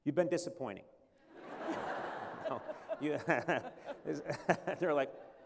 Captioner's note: laughter